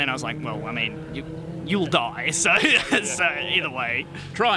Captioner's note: laughs